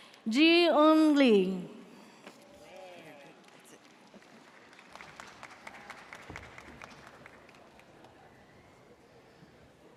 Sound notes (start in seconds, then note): 5.3 audience cheers